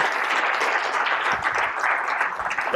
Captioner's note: applause